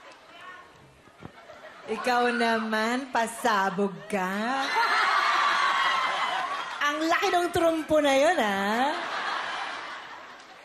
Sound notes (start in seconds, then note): 4.2 melai laughs; 5.1 crowd cheering; 8.6 laughter